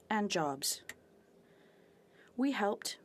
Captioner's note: speaking French